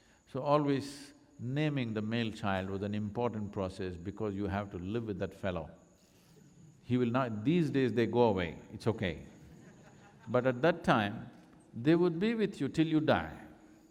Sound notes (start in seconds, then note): 9.4 laughter